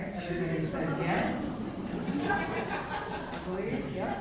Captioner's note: laughter